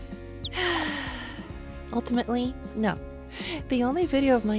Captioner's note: sigh